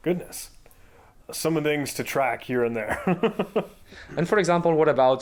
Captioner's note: chuckling